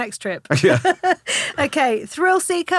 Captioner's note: laughing